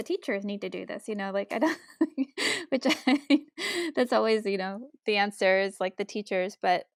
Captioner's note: laughs